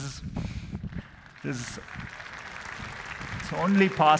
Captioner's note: applause